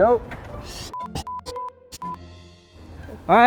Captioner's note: beep